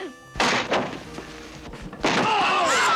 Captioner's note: door bursts open, screaming